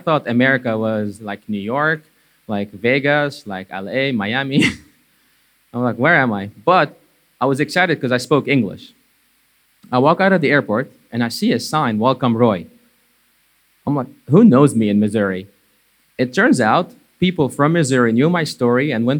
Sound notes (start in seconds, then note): 4.5 chuckling